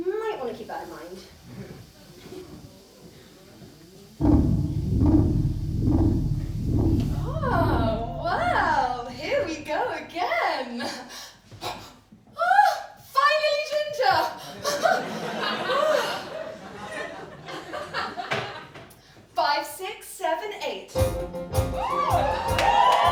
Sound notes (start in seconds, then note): 10.9 gasp